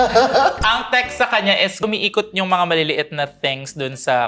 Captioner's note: laughs